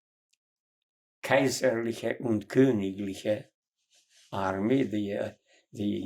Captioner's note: german